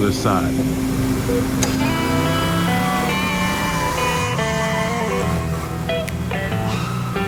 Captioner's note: engines roaring; slick music